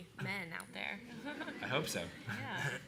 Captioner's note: laughter